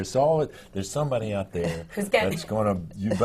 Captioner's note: laughs